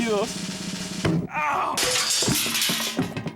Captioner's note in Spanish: Sonido de golpe